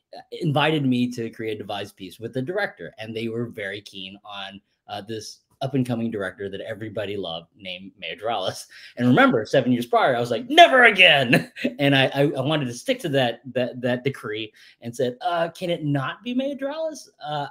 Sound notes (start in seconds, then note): 11.2 laughs